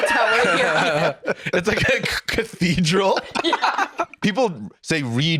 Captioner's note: laughing